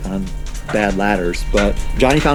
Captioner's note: rocks clatter